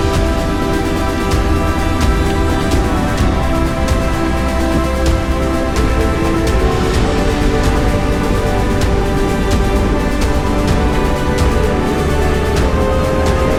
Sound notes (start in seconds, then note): 1.9 crowd cheering; 1.9 dramatic music; 2.7 crowd cheering